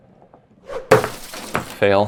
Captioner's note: crashing sound